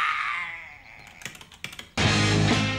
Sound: buttons tapping; upbeat rock music begins

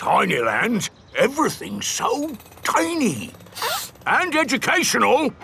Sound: sniffs

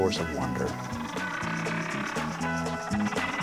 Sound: whale sounds

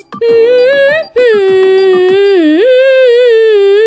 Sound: humming

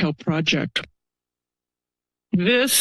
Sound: pause

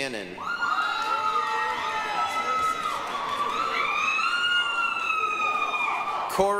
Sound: applause, cheering

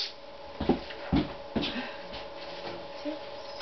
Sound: foot jumping noises

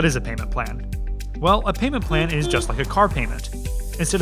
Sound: car horn honking

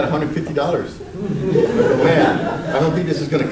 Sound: audience laughs

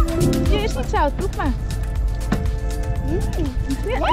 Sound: speaks in Dutch

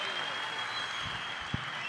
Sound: applause

